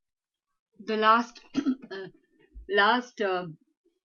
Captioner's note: clears throat